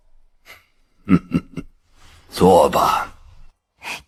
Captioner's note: chuckles dismissively